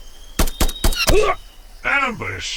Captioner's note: gun blasting; trooper groans